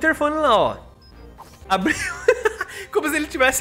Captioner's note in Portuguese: risos